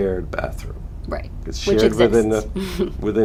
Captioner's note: chuckles